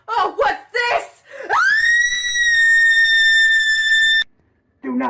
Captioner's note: Delia screaming